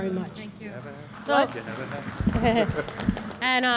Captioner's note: applause